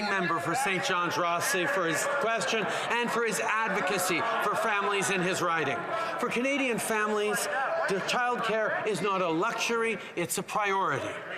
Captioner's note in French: voix de l'interprète